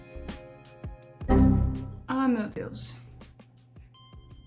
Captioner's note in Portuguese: barulho de erro windows xp